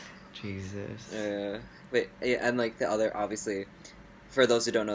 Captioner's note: laughs